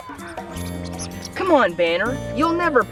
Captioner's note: ball squeaking